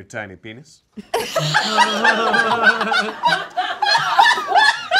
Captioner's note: all laughing